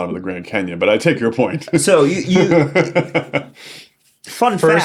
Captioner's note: laughs